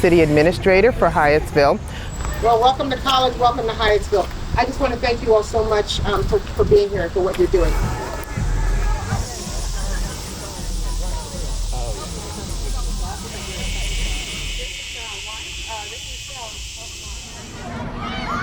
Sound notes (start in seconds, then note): 8.9 insects trilling